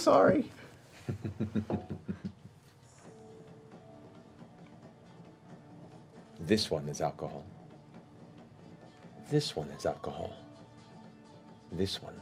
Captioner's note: chuckles